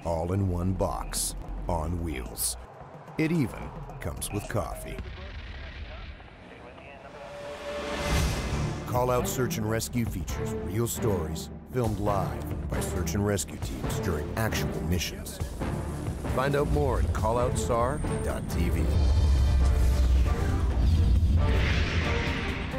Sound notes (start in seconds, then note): 8.7 voiceover; 17.6 dramatic music; 18.9 voiceover